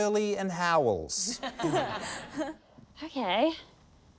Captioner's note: laughter